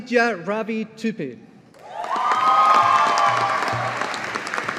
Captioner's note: audience applauding